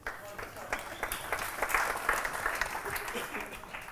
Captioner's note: applause